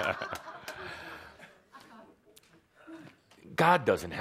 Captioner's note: more laughter